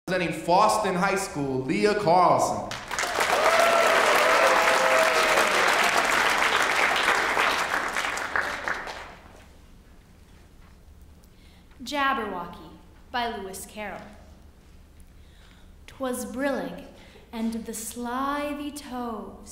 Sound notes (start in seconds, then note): 7.5 applause